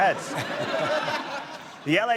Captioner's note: laughter